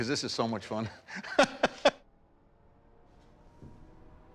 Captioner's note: laughs